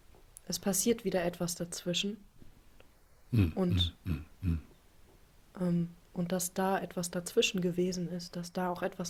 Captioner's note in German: räuspern